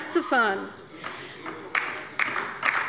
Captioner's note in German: Beifall bei der LINKEN